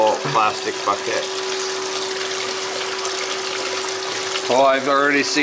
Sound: water running

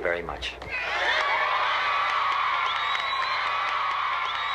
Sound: triumphant screaming

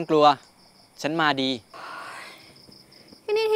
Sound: sighs

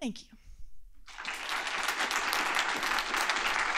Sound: applause

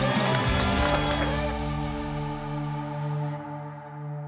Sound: crowd cheering

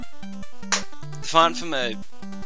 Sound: might've been a clap

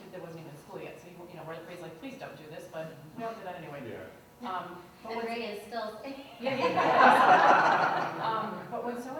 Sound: laughter

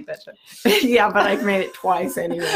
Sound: both laughing

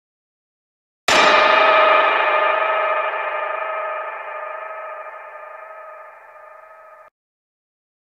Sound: sound of thunder bell

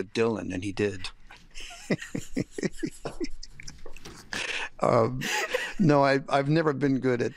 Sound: laughter

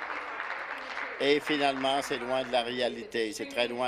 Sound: applause

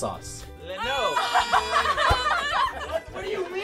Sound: laughing

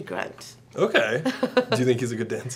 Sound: Marina laughs

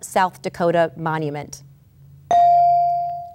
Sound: ding

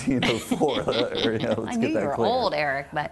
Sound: laughing

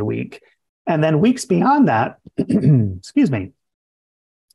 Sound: coughs

